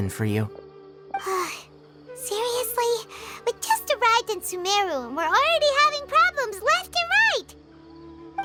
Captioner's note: sigh